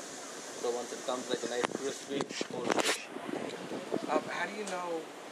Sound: camera clicks

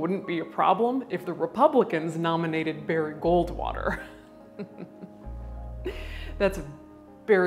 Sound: chuckles

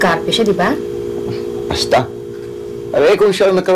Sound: scoffs

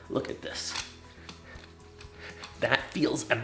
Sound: panting

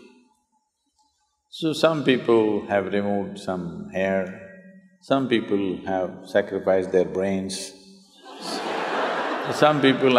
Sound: laughter

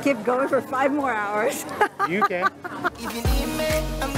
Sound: laughs

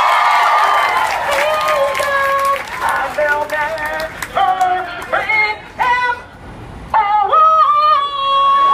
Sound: cheers

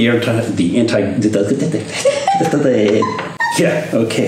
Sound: laughing

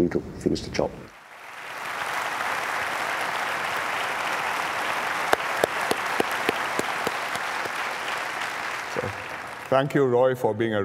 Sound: applause

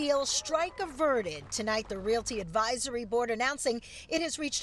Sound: cheering

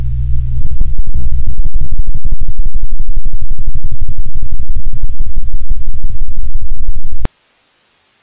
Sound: choppy noise fading in and out

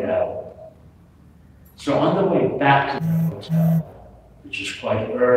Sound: phone vibrates

